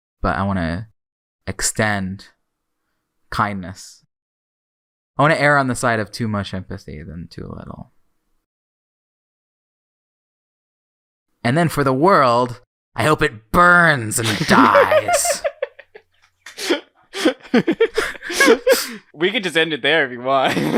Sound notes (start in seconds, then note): 14.2 laughs; 17.1 both laughing; 20.4 laughing; 20.4 laughs